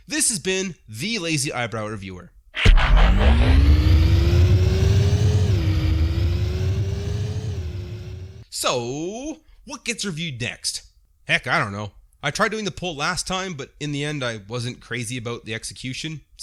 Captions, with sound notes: This has been THE Lazy Eyebrow Reviewer! *transformation noises* *fading truck noises* What gets reviewed next?! Heck, I don't know. I tried doing the pole last time but in the end, I wasn't crazy about the execution